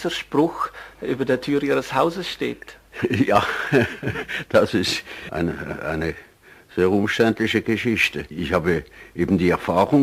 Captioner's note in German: lacht